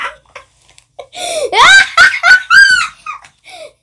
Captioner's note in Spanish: Risas